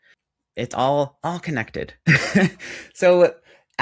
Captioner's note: chuckles